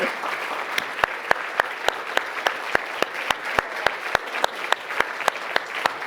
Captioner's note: Bob and audience applauding